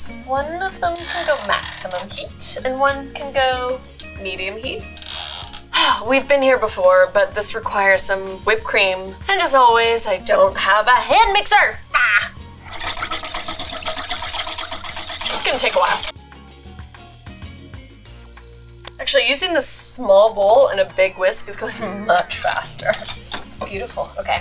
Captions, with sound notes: One of them to the maximum heat, and one can go medium heat. (twisting dial) We've been here before, but this requires some whipped cream and as always, I don't have a hand mixer, gah. (whisking) It's gonna take a while. (upbeat music) Actually using this small bowl and a big whisk is going much faster. It's beautiful, okay.